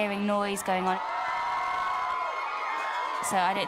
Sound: cheering

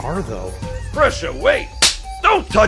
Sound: smack

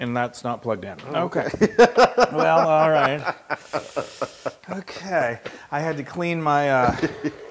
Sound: laugh

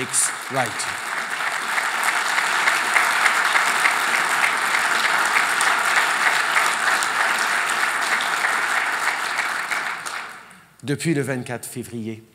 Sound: applause

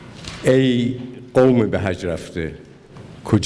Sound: speaking persian

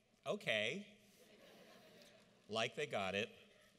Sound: audience laughs

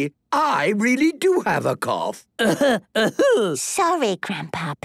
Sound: coughing

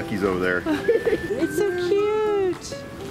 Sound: laughing

